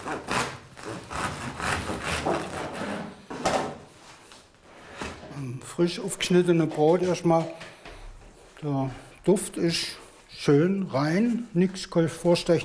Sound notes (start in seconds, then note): 0.6 crackling